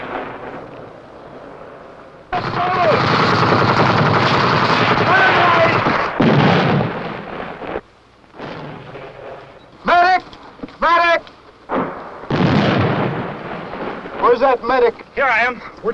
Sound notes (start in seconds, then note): 2.3 gun shots; 11.7 explosions